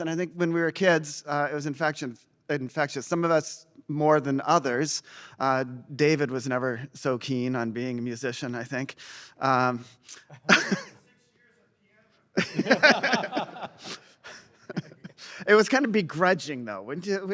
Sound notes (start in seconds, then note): 12.3 laughter